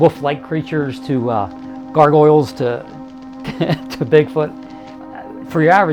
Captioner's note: laughing